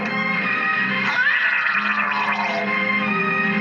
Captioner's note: gurgling